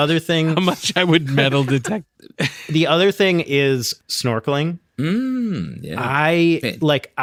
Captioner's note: laughter